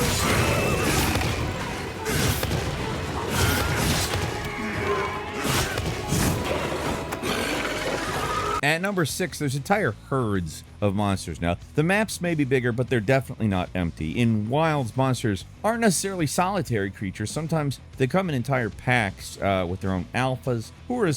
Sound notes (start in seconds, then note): 0.0 sword clanking; 7.2 monster screeching